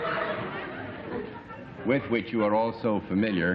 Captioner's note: laughter